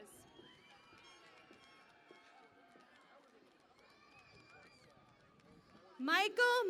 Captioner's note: cheering and Applause